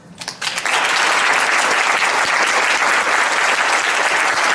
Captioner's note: audience applauds